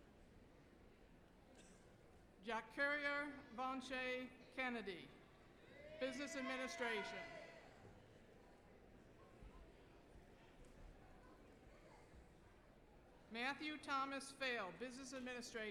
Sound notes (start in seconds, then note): 6.0 applause